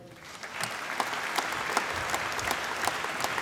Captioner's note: applause